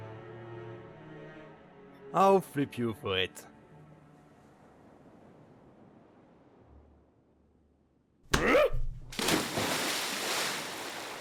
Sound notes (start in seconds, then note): 9.1 splash